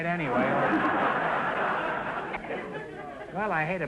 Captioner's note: audience laughter